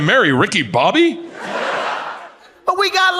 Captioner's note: audience laughs